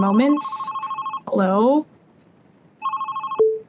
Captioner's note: phone ringing